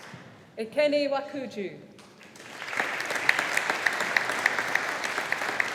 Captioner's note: audience applauding